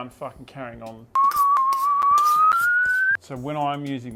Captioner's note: whistles